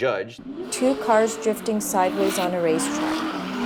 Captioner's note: engines rev